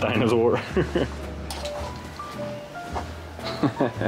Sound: laughs

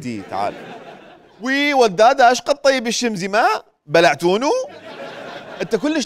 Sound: in Mosul accent

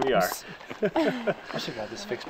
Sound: laughing

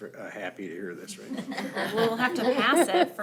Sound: group laughing

